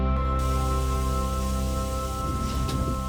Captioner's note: water gushing